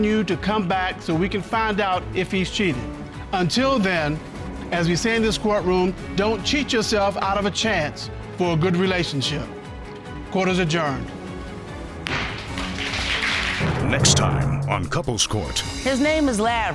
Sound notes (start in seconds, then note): 12.0 audience clapping; 12.0 bangs gavel